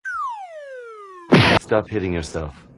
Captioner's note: boom